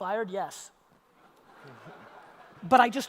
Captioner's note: audience laughter